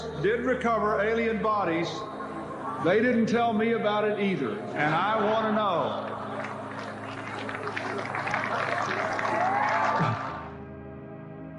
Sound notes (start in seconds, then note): 5.6 audience applauding